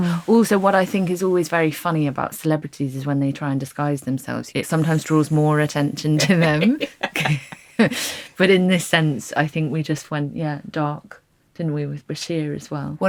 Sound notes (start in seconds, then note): 6.2 group laughing